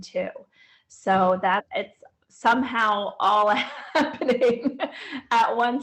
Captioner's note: laughs